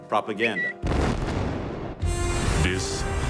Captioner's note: bomb exploding; bird tweeting